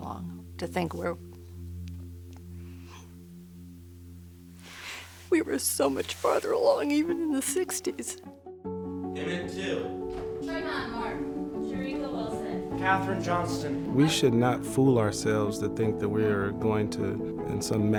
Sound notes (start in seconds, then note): 4.4 they get choked up